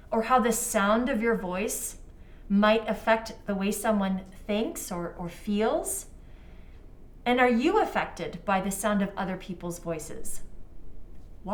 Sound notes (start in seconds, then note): none